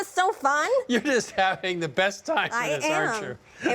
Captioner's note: laughs; chuckling